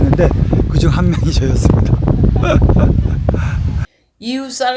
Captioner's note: laughs